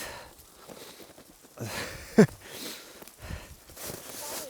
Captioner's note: nervous laughter